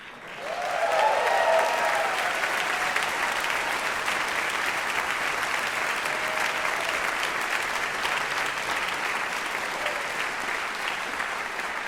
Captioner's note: applause